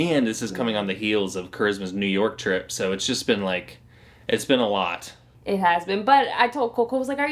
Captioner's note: none